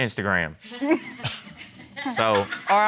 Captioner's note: giggles